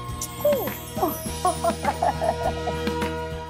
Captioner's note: laughing